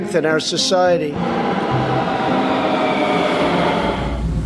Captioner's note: subway noises